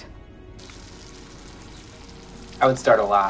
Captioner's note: bacon sizzling